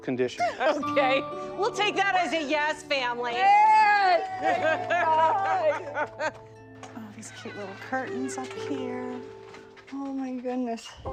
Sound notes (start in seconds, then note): 3.4 group cheers; 10.8 gentle piano music